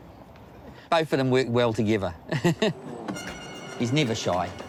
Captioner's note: laughs